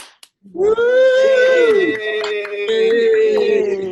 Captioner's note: attendees cheering